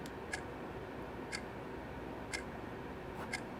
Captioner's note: none